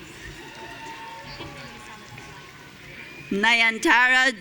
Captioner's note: audience cheering